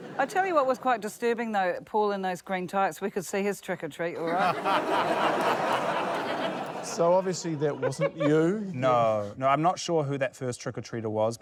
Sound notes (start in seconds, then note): 4.2 laughter